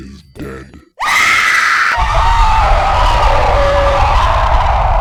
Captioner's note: screaming